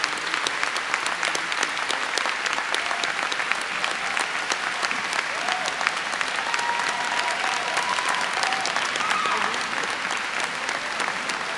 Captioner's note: applause